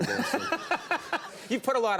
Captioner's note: laughter